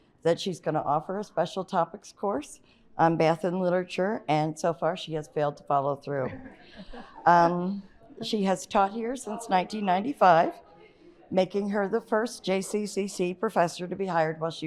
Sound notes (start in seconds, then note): 6.2 audience chuckles